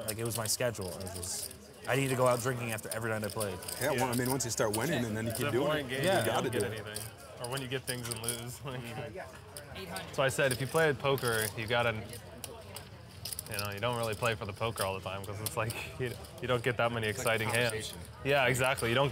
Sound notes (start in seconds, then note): 8.9 laughs